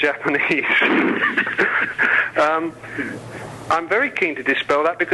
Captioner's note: both laughing